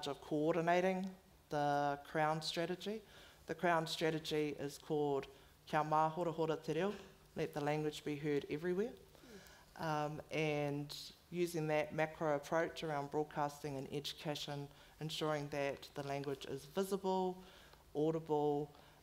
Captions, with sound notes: of coordinating the crown strategy. The crown strategy is called (foreign language) let the language be heard everywhere and using that macro approach around broadcasting and education, ensuring that the language is visible, audible,